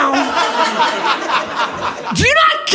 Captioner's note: audience laughing